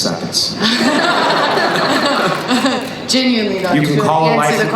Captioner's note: laughing